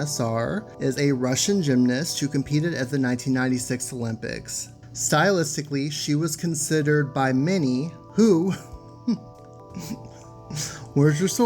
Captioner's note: laughs